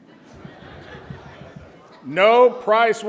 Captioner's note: audience laughs